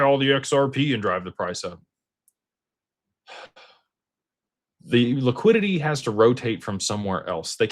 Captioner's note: sighs